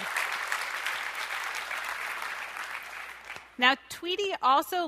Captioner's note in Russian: аплодисменты